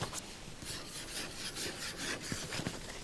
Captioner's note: scratches page